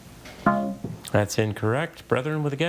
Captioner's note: text buzzing